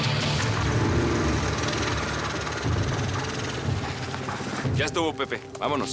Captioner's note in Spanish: ruido del motor del go kart